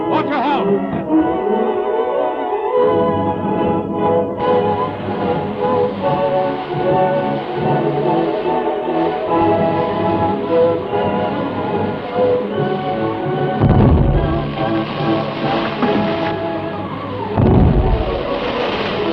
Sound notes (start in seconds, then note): 3.1 dramatic music; 9.5 water whooshing; 13.6 explosions booming; 14.0 quiet suspenseful music